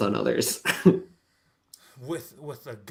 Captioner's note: laughs